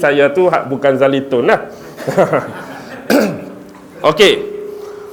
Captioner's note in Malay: ketawa; berdeham